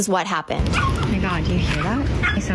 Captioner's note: dog barking